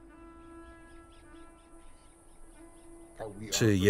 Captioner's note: bird chatters